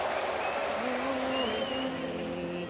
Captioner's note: applause